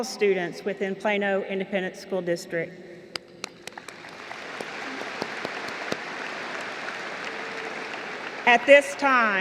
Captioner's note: applause